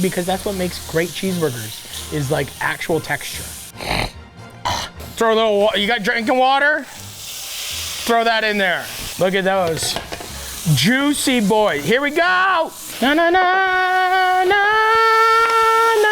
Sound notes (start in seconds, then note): 3.7 Matty snorts and grunts; 12.9 Matty hums